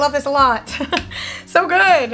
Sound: laughs

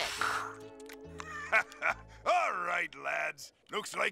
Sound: laughs

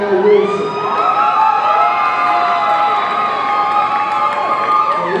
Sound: audience cheering

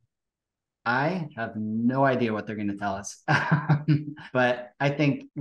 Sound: laughs

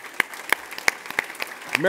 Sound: audience applauds

